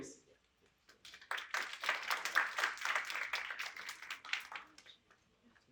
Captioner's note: applause